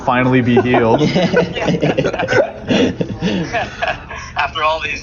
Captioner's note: all laugh